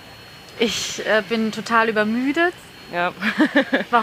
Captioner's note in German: lacht